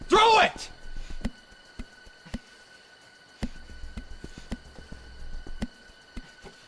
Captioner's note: crickets chirping; suspenseful music continues